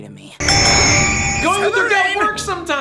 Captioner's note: ding ding ding noise